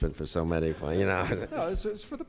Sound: audience chuckles

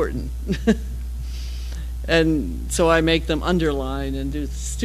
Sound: laugh

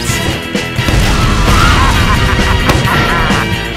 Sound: evil laugh

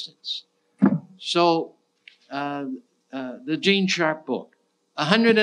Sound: thudding

